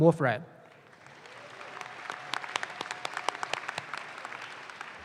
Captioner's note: audience claps